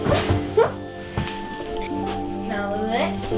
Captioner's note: Candice giggling